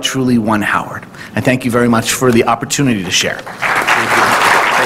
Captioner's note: applause